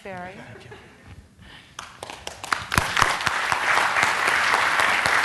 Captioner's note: applause